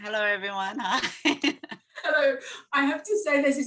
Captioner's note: laughing